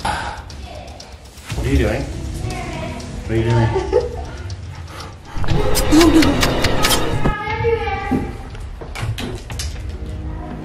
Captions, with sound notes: What are you doing? What are you doing? (slicing sounds)